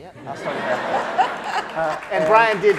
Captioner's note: laughing